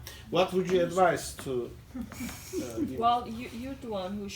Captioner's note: mumbles